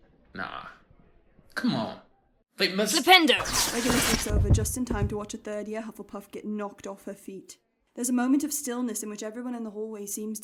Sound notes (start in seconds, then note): 3.4 spell whiz whoosh